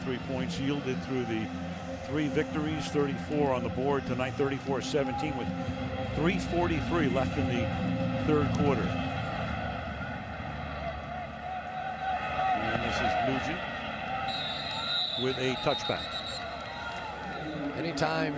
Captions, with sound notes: Yeah, 33 points yielded through the three victories, 34 on the board tonight, 34-17 with 3:43 left in the third quarter. And this is Nugent-- [whistle blows] --with a touchback.